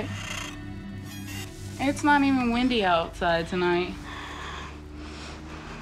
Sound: branch scraping window

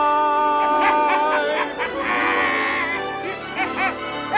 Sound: scrooge laughing hysterically

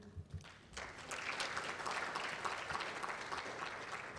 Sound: applause

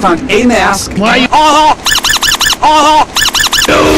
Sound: slightly echo-y; squeaky speed up

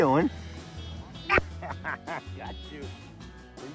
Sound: laughs

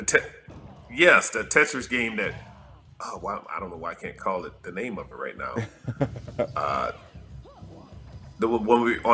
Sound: laugh

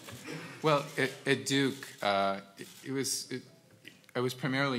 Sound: laugh

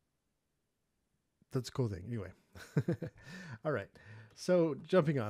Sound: laughing

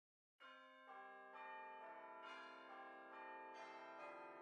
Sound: tower bells ringing

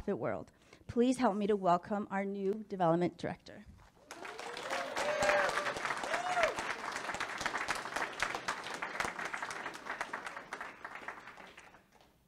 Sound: public clapping

